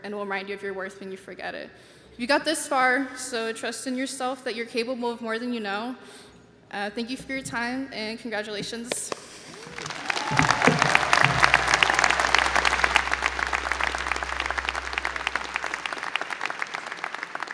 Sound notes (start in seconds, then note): 8.9 clapping; 9.4 audience applauding and cheering